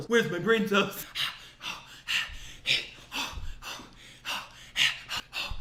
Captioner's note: breathing heavily